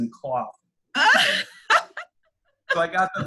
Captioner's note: laughs